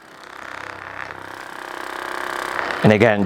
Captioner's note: motor rumbling